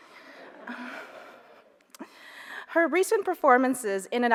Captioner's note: audience laughs